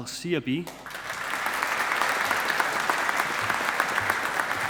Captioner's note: audience applauding